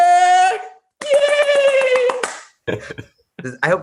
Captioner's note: clapping fiercely